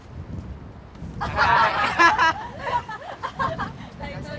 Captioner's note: laughs